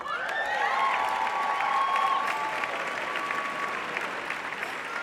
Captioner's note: audience applauding